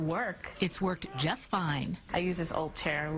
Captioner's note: voiceover